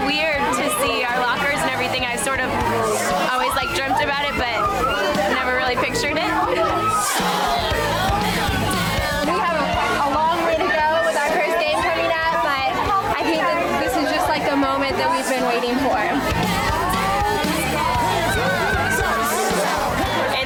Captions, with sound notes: - It's really weird just to see our lockers and everything. I sort of always dreamt about it, but never really pictured it. (women cheering) (upbeat music) - We have a long way to go with our first game coming up, but this is just the moment that we've been waiting for. (women cheering) (upbeat music)